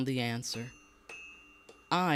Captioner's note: metal hammering